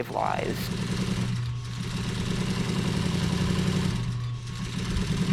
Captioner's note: sewing machine roaring